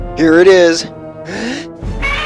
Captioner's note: inhale